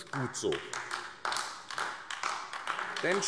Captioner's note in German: Beifall AfD